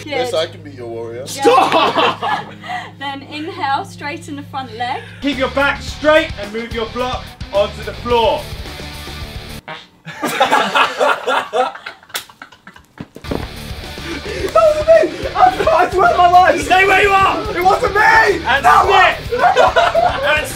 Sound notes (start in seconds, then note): 9.6 someone farting; 10.0 group laughing